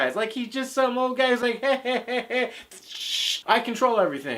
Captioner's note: chhhhhhh